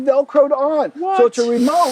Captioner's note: talking excitedly